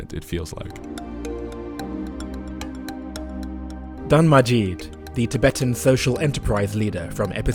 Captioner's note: voiceover